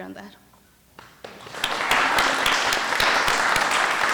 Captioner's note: applause